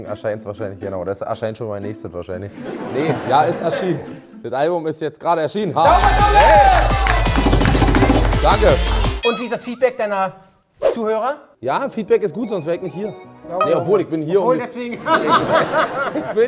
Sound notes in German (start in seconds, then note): 2.6 Lachen; 7.4 Partymusik; 9.2 Boing; 14.9 Lachen